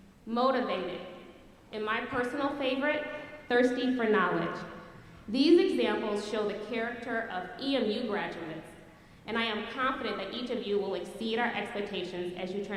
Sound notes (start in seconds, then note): none